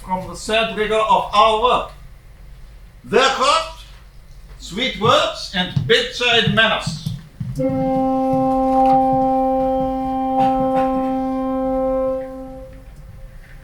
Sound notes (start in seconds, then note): 7.5 horn